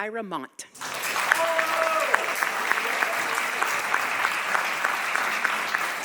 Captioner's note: audience applauding